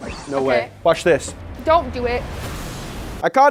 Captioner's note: fire whooshing